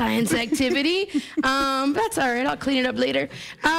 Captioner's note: laughter